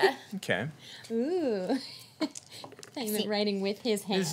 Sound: woots

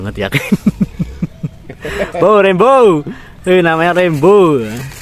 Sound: laughs

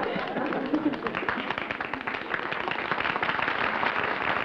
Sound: applause

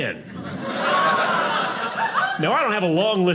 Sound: audience laughing

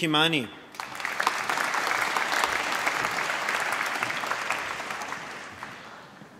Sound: applause

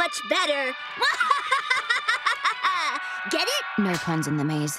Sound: laughing

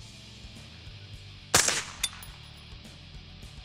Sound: fires

